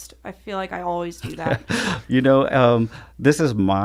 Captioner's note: laughs